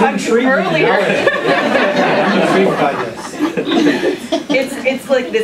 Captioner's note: laughter